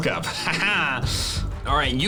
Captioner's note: laughs